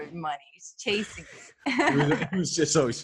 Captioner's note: laughs